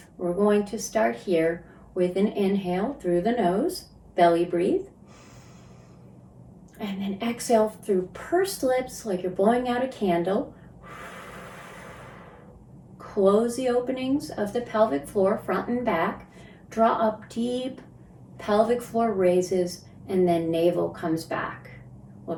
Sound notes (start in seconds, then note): 5.0 inhales; 10.6 exhales